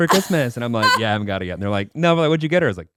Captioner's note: laughing